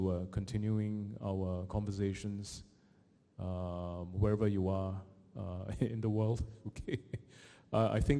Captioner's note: chuckles